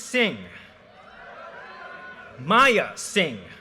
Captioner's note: audience cheers and applause